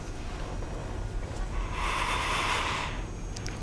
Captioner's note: inhales